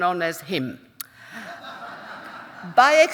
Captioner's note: audience laughing; chuckles